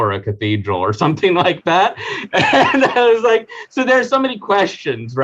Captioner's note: laughing